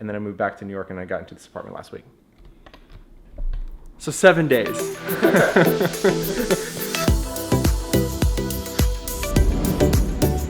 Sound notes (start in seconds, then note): 4.8 laughs; 6.9 upbeat music